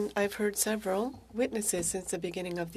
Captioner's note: speaking French